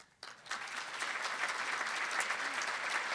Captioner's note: applauding